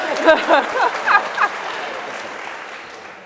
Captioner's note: laughter